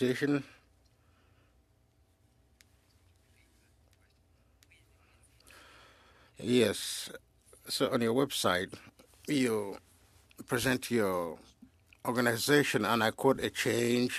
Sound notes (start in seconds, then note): 1.6 speaking French